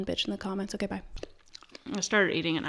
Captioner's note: chewing